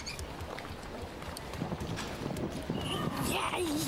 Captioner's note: laughs